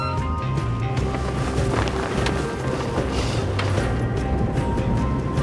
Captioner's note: sail flapping